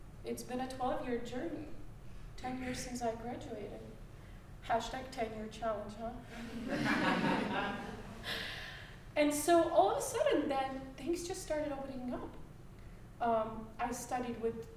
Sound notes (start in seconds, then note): 6.3 all laughing